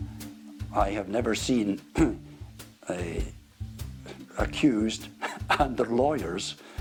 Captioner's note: chuckles